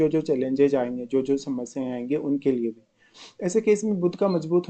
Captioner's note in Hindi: नाक से की जाने वाली आवाज़